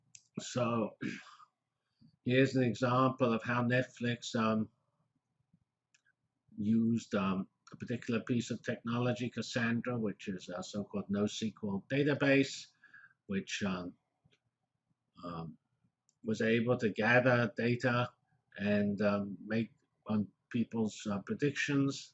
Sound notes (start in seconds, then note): 14.0 pause